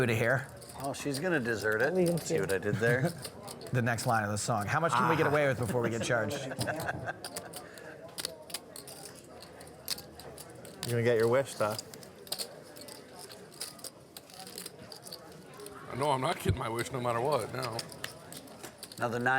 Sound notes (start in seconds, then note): 6.6 laughs; 8.1 poker chips clacking